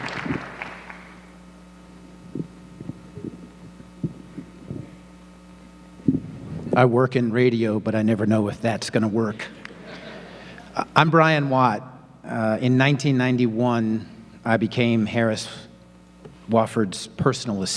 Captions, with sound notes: - I work in radio but I never know if that's gonna work. (audience laughing) I'm Brian Watt. In 1991 I became Harris Wofford's personal assistant